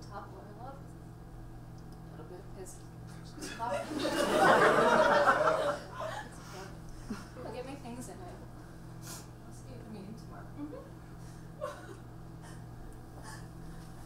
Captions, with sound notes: - All it took to topple our love was a little bit of piss. (audience laughs) It's okay, I'll get me things and I'll see you at the meeting tomorrow.